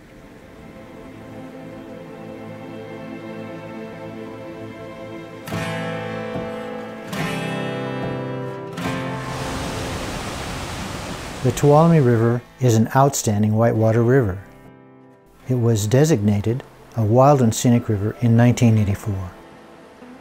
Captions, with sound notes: [Theme music] [Sound of rushing water] The Tuolumne River is an outstanding whitewater river. It was designated a Wild and Scenic River in 1984.